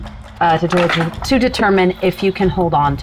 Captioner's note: dice rattling